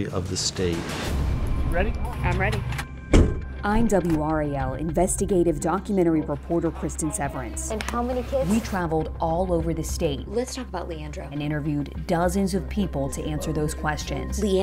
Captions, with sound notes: (dramatic music) - Ready? - I'm ready. (car boot slams) - I'm WRAL investigative documentary reporter Cristin Severance. and how many kids? We traveled all over the state. Let's talk about Leandro. And interviewed dozens of people to answer those questions.